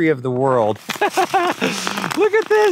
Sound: laughing

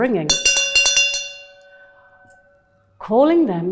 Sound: bell ringing

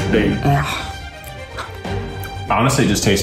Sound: gagging

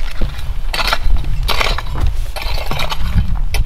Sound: rake scraping

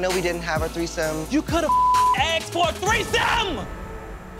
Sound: beeping

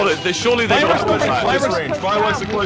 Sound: voice overlay

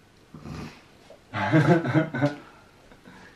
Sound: laughing

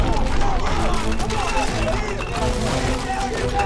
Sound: men shouting, rumbling continues; men shouting; hammering, men shouting

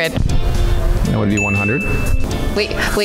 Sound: bell sound effect

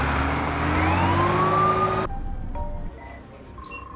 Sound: sirens wail; phone rings

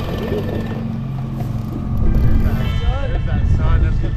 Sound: boat engine sputters

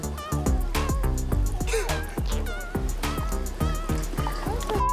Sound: laughs

